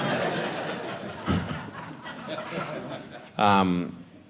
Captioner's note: audience laughing